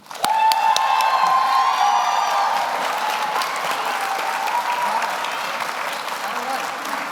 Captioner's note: audience applauds; audience cheers